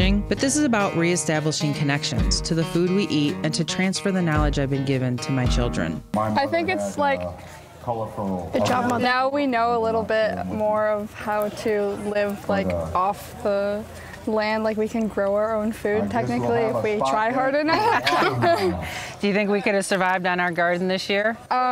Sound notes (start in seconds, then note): 17.3 all laughing